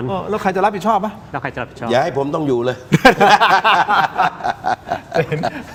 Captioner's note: laughter